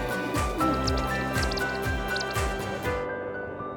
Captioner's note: hawk chirping